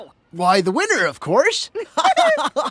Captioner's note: laughing